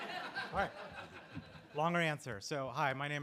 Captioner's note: laughter